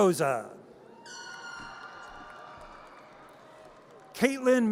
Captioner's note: audience cheers